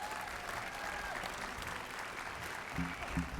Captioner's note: applause